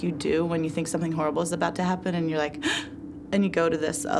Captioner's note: gasp